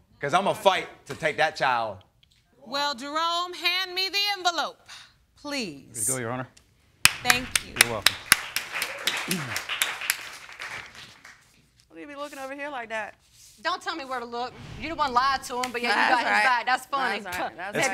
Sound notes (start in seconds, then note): 7.0 clapping; 8.6 crowd clapping; 17.4 scoffs